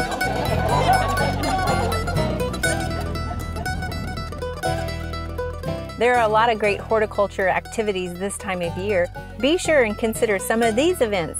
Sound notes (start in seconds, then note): 0.0 crowd laughs